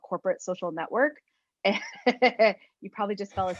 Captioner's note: laugh